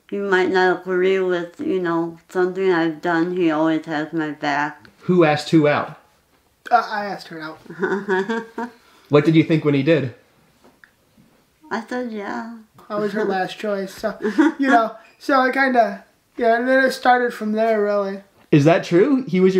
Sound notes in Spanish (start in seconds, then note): 7.6 se ríe